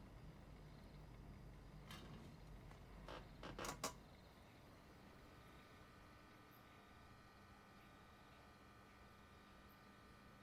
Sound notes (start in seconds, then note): 3.0 chair creaks; 7.2 neon light hums